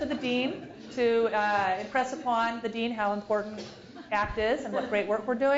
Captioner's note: laugh